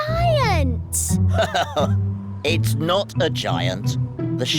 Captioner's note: laughs